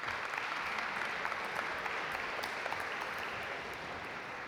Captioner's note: audience applaud